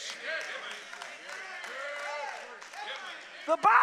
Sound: congregation cheers

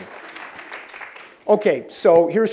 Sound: applause

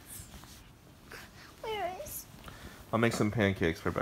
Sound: sniffling

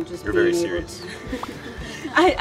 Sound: laughter

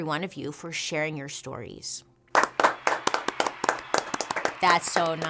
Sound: hand claps

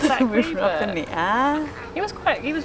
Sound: laughs

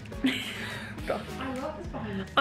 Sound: laughing

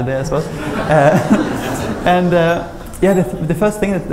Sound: laughter

